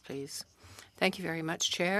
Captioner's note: speaking French